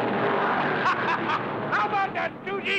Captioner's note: men laughing